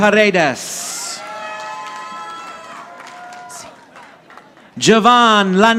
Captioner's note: audience applauding